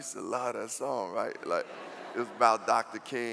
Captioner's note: laughing